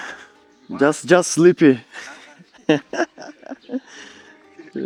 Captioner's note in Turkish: kahkaha